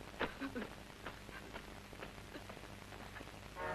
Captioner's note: weeping